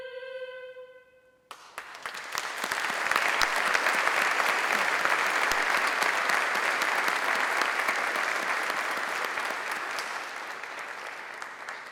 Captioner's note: applause